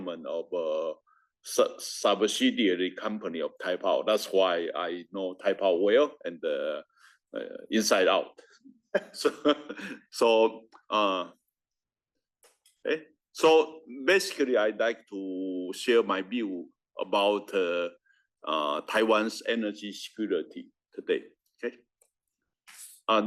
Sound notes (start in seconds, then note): 11.9 laugh